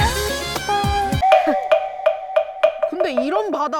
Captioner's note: just kidding sound effect